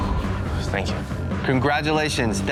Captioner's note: exhales